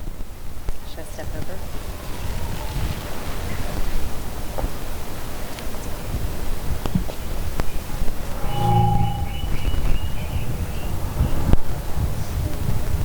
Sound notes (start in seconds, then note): 8.0 mic feedback